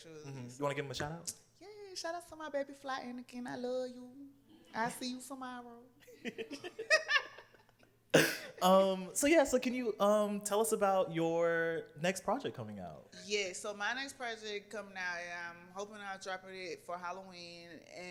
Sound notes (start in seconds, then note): 6.0 laughter